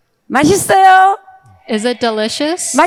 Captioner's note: speaking in foreign language